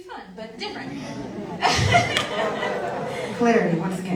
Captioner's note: audience laughs